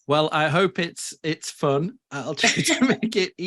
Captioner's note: laughs